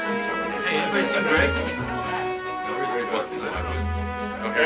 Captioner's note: chattering